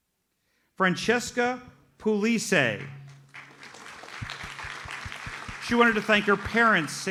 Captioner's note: audience applauds